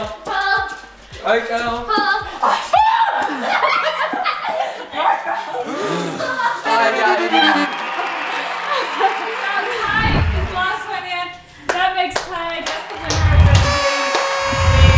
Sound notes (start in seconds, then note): 2.6 screaming